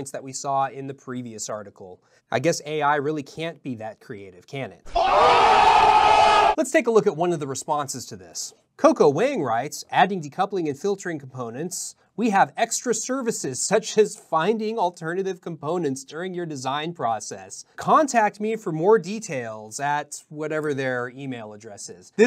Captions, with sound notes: that we saw in the previous article. I guess AI can't be that creative, can it? (men screaming) Let's take a look at one of the responses to this. Coco Wang writes, "Adding decoupling and filtering components. We have extra services such as finding alternative components during your design process. Contact me for more details," at whatever their email address is.